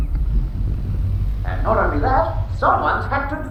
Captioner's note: laughs